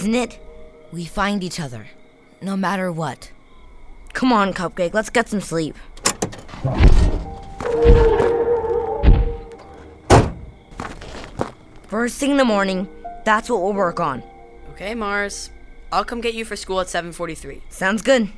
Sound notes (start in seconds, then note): 6.6 Footsteps thumping , Cupcake roars; 9.6 car door slams